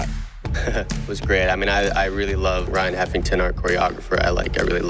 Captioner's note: chuckles